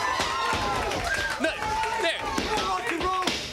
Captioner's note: crowd cheering